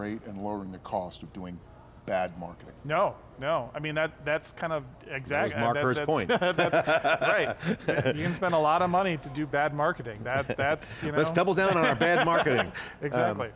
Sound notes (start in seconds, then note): 7.6 laughing